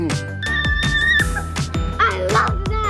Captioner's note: yells